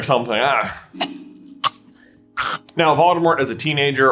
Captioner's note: cough hack hack